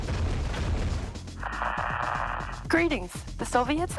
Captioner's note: Static